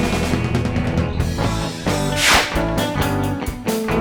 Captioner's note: zap; guitar